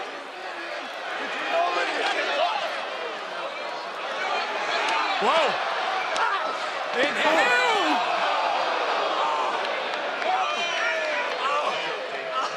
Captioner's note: yelling